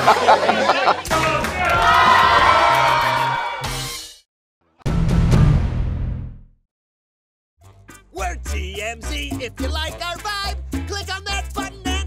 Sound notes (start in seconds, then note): 0.0 laughter